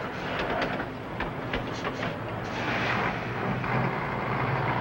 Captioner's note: engine whirring